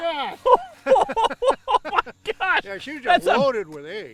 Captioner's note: laughter